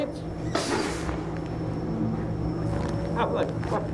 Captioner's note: air bursts